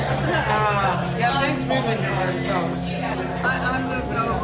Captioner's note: indistinct conversations